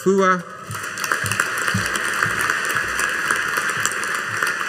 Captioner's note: audience applauding